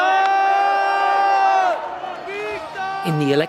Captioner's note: crowd cheering